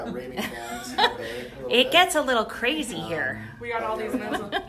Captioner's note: laughs